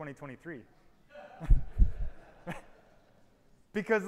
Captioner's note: audience chuckles